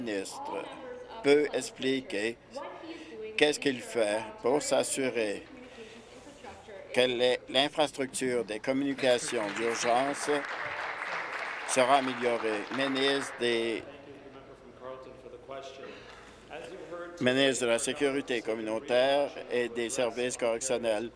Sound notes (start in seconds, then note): 10.6 applause